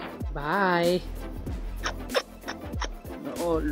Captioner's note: flying kisses